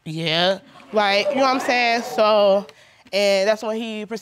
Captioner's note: audience gasps